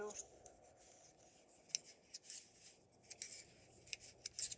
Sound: needles clicking

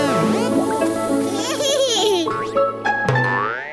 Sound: giggles

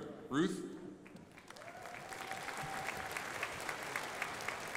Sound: crowd applauding

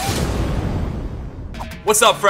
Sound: explosion blasting

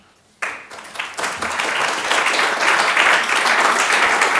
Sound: audience clapping

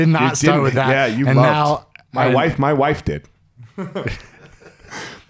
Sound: laughing

